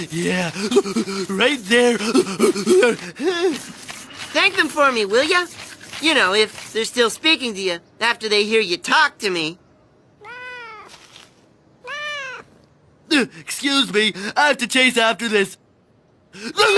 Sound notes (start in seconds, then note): 11.8 cat meowing